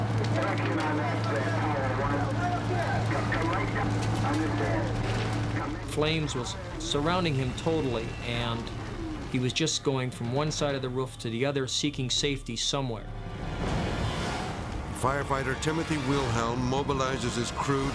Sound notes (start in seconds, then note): 0.3 radio static muffling dispatch; 3.5 radio static muffling dispatch; 13.0 dramatic orchestral music